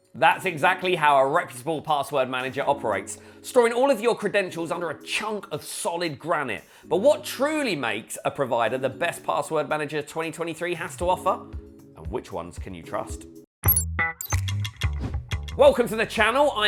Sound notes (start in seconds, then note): 13.6 upbeat music; 13.6 graphic blips